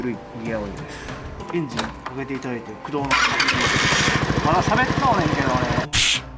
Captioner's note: starts the engine early